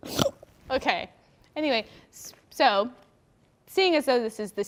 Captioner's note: snorts